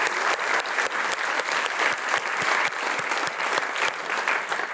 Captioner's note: clapping